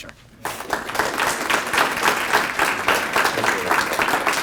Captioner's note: applause